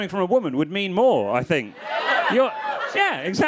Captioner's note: crowd clamoring